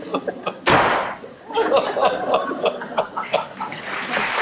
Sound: Marianne sobs; door slam; audience laughter; applause

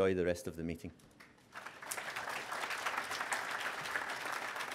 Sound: applause

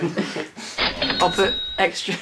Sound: cash register noise

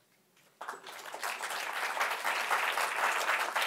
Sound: applause

